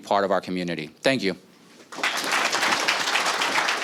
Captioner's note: applause